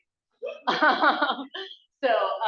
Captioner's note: laughing